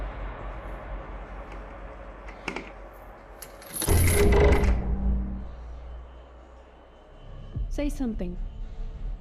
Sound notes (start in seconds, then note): 3.4 chain rattling